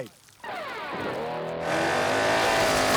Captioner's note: crash